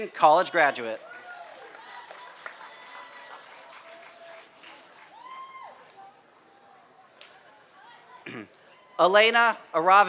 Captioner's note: applause